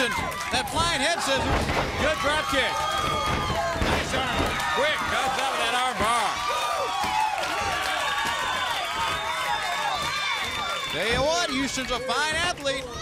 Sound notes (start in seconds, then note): 7.8 crowd cheering